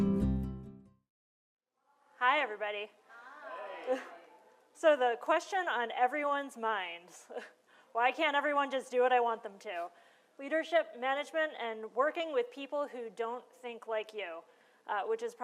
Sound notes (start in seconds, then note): 3.0 crowd